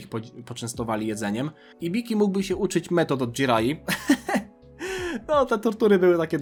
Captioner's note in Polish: śmiech